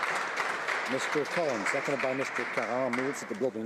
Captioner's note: some Applause